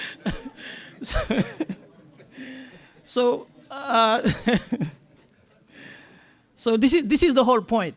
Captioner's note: laughter